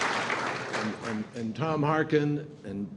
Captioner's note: applause